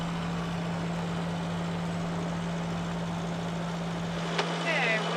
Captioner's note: boat engine whirring